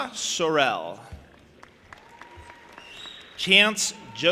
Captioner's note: audience applauding